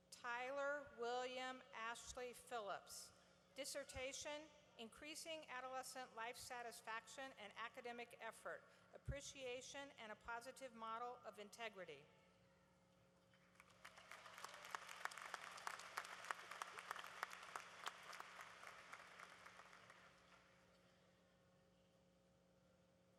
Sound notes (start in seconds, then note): 13.4 applause